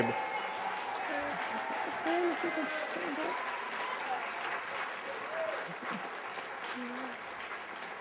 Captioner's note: applause